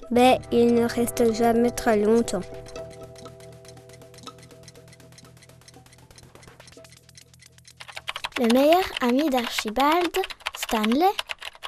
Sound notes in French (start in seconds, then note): 2.9 tic tac de pendule